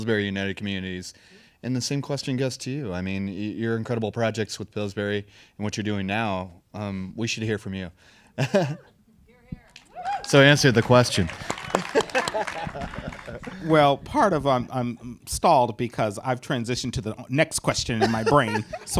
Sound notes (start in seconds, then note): 8.4 laughs; 11.7 audience applauding